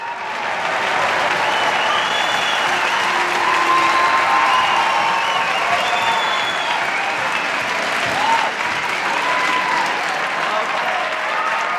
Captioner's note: applause